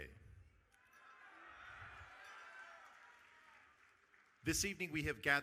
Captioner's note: audience cheering